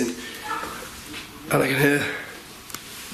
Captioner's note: child yapping